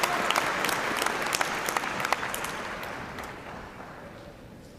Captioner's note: cheers and applause